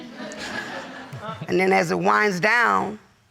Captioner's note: audience laughing